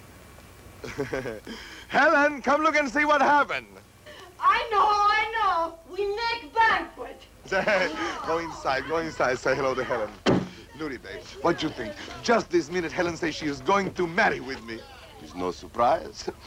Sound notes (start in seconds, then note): 0.8 chuckles; 7.4 laughs